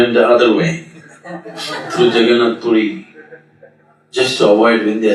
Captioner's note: meditators Laugh